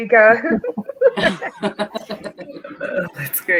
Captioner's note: all laughing